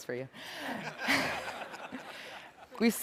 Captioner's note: laughter